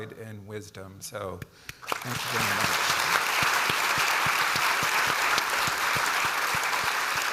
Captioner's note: audience applauding